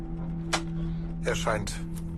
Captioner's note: arrows strike